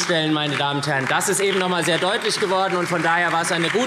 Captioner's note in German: Beifall SPD, BÜNDNIS 90/DIE GRÜNEN und vereinzelt CDU - Zurufe AfD